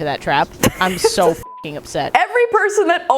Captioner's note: beep